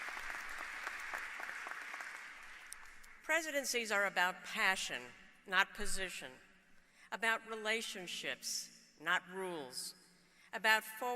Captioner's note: applause